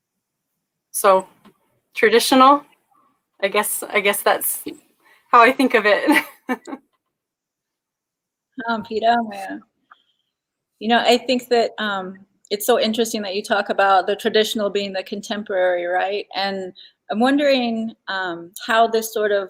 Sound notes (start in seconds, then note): 7.9 speaking Dakota